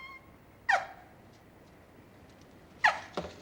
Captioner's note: crying hysterically